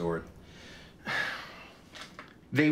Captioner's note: sighs